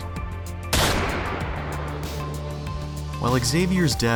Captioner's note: gunshot